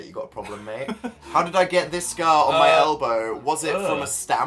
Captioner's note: Phil giggles; noise of vague disgust